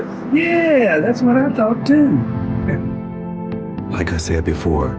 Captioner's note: chuckles